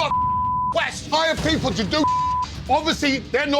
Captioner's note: beep